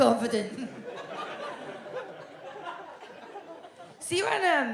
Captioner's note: audience laughs